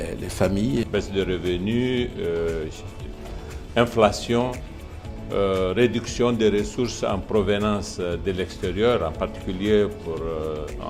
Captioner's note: speaking in French